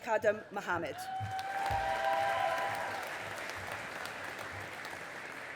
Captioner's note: audience applauding